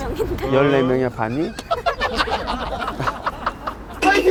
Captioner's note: laughing